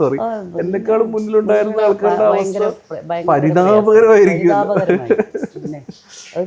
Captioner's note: laughing